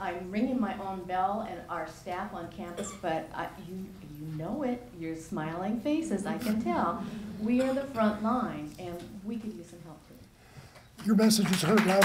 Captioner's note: applause